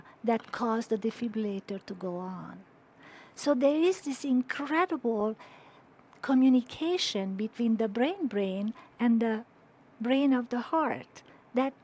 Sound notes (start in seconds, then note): none